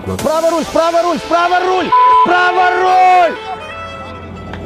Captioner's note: screaming, swearing